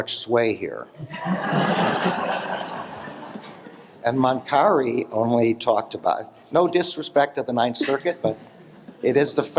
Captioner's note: laughter